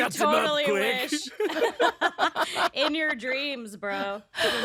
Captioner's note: all laughing